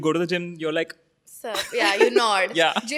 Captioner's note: laughing